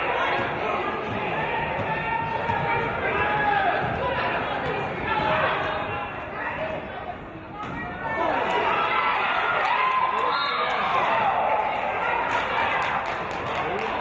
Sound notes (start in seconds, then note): 10.2 referee's whistle